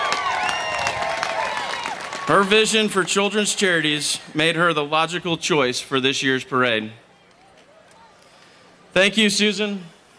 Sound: applause

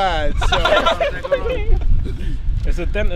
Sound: laughter

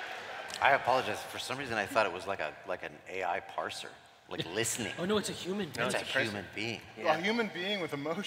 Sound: laughter

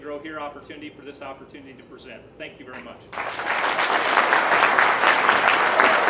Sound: applause

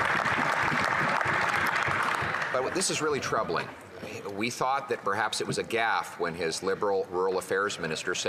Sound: applause

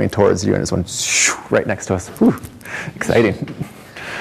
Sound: swooping noise

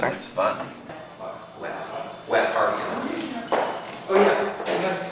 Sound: group chattering

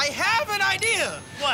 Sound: bell dings

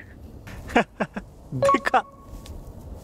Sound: chuckles

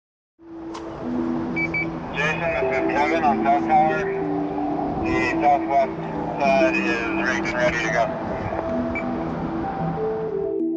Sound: radio chatter

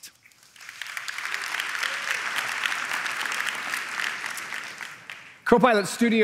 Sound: applause

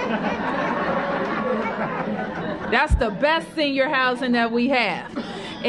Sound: laughter

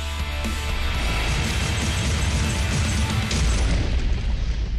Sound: glass shattering

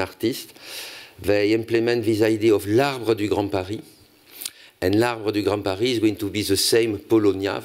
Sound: french

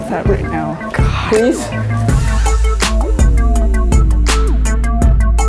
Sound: groans

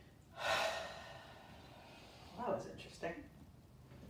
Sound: exhales

